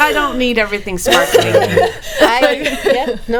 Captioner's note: laughing